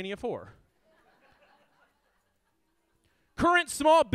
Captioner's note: audience laughs